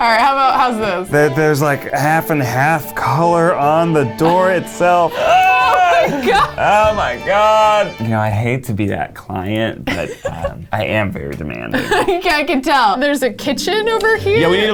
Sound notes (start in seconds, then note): 4.0 yells